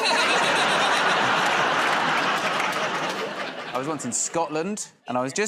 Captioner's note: laughter